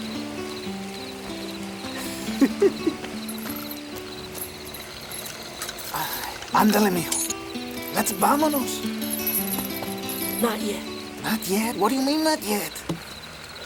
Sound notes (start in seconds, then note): 1.9 Crecencio giggles; 6.8 speaks Spanish